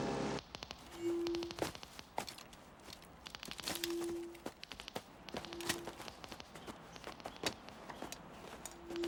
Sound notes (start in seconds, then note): 0.9 detectors clicking